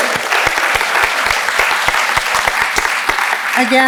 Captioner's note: applauds